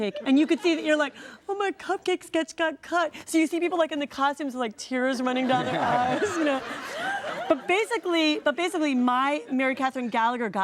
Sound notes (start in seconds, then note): 5.3 audience laughs